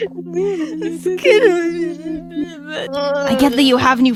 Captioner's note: unintelligible crying noises